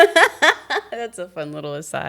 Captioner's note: laughing